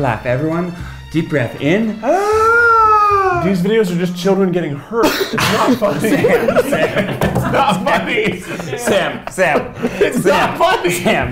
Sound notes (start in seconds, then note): 2.0 loud inhaling; 5.8 laughing